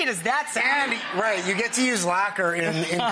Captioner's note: audience laughs